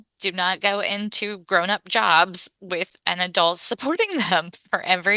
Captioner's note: laughs